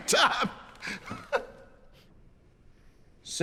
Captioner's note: laughing